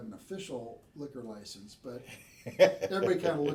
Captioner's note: laughing